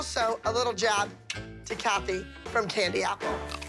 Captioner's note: clicks tongue